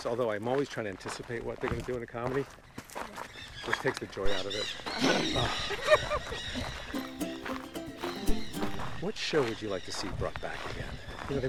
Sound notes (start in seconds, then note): 4.3 birds squawk loudly; 5.1 makes shooting sound; 5.6 Lisa laughs; 6.9 bright music